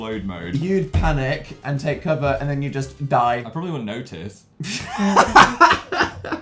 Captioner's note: t-hahaha